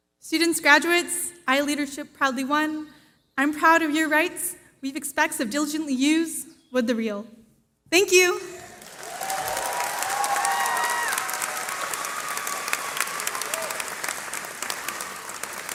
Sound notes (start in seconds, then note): 8.8 cheering